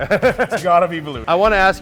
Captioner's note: laughing